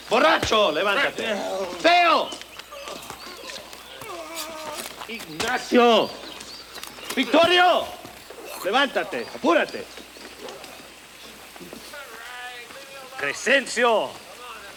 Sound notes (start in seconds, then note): 0.1 Bruto speaks Spanish; 3.2 gang members groan; 8.4 Bruto speaks Spanish